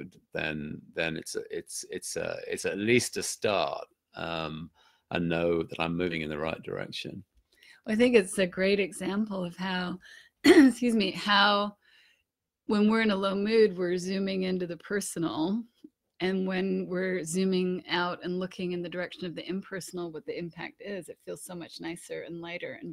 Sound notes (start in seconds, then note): 10.4 coughs